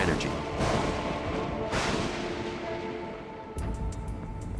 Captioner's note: thunder rumbling